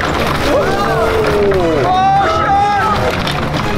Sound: crowd; dramatic music; crowd; dramatic music; crowd; dramatic music

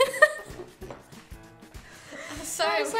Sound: laughing

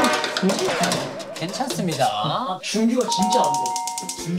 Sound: thud; rattling

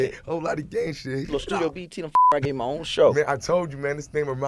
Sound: beep

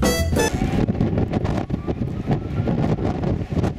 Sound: more heavy wind noise

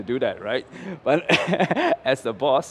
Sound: laughs

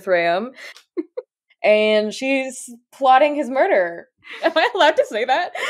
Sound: laughs; laughing

